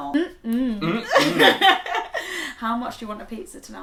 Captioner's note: laughs